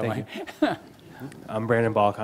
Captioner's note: laughing